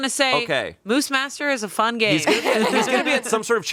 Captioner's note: laughing